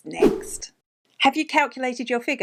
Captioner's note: air whooshing